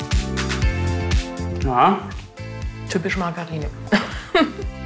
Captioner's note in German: Motivierte Musik; lacht